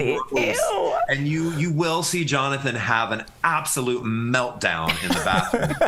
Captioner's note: laughter